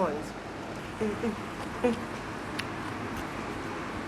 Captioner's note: sounds of content